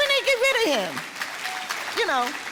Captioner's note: audience applause